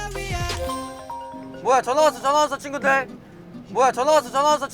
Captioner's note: the phone rings again